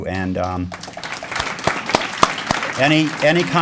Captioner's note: applause